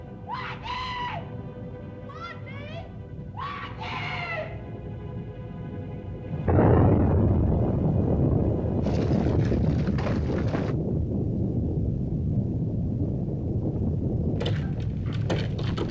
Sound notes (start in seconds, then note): 0.0 volcano rumbles; 0.2 screams; 3.3 screams; 5.1 volcano rumbles; 6.5 explosion; 8.8 volcano rumbles; 8.8 shaking & clattering; 10.7 volcano rumbles; 14.3 rocks clattering; 14.3 volcano rumbles